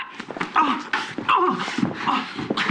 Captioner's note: scott groaning